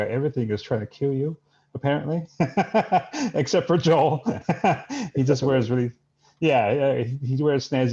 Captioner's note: laughs